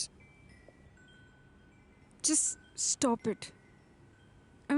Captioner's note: none